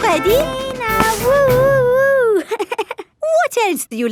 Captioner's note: chuckles